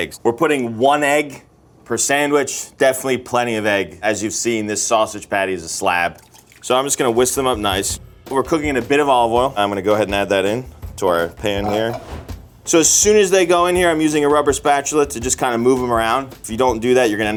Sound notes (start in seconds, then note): 6.3 egg jostles; 11.5 pan scrapes